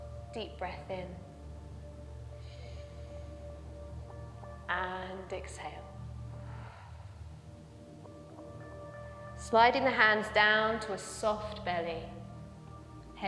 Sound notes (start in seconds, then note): 2.4 inhales; 6.3 exhales